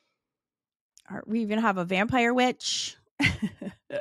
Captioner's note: laughs